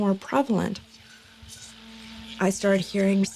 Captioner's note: static hissing